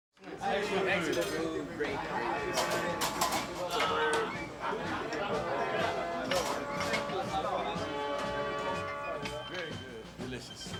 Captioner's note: crowd chatter